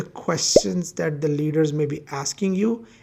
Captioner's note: bubble popping